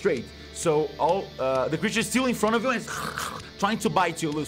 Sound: growls

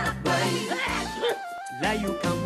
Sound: sneezing

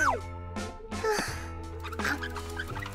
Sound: sighs

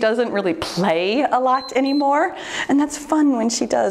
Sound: timer beeps

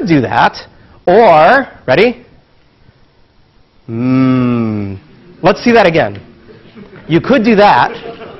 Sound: laugh

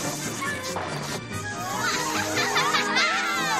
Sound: laughter

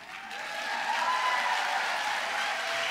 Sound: applause

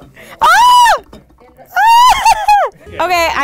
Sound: shouting

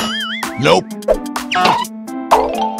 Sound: deep voice

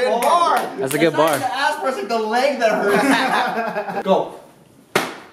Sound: laughter

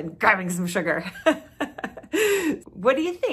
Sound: laughing

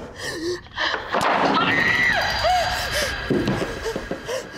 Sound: screaming; heavy breathing

